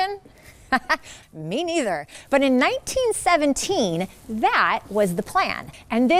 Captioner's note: laughing